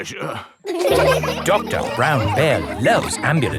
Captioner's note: all laughing